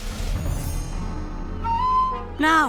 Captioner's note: blows the whistle